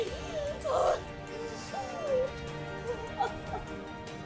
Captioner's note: sobbing